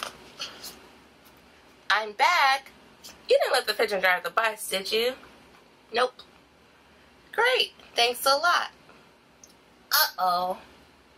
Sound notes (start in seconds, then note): none